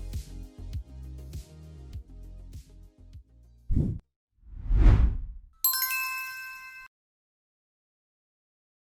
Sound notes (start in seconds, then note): 4.5 graphic whooshing; 5.6 graphic chiming